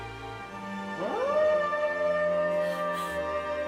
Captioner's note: howls